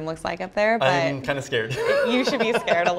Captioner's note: laughs